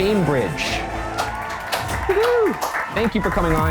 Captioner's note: clapping